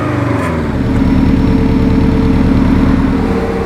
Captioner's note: engine at idling speed